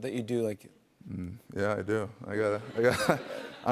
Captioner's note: laughs